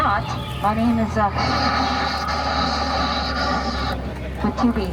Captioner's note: fakes static sounds on mic